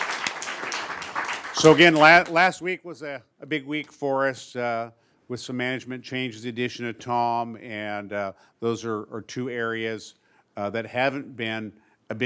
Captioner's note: applause